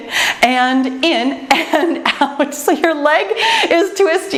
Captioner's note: laughs